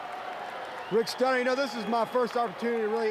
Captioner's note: crowd cheering